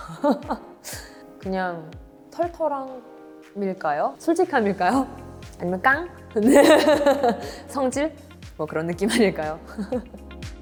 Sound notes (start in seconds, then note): 6.6 laughs